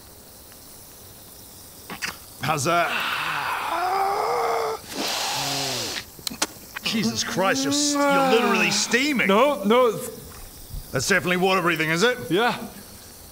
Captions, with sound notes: How's that? ahhhhhhh rghhhhhh *spicy sniff* Jesus Christ you're literally steaming No, no that's definitely water breathing is it? yeah